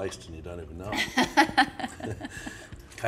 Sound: chuckles

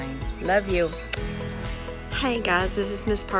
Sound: kisses

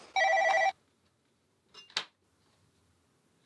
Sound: phone ringing

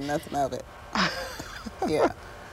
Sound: laughter

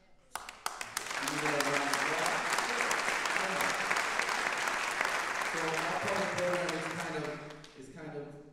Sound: applause drowns speech

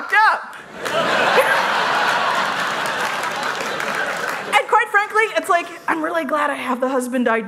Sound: laughter

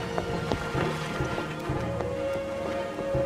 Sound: running footsteps

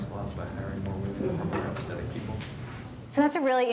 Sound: speaks quietly

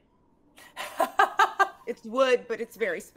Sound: game Master laughs

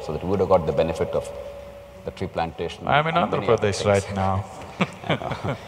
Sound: laughs

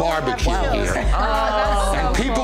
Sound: family excitedly talking

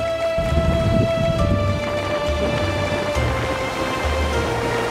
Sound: crashing waves

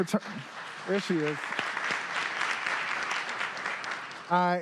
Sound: applause

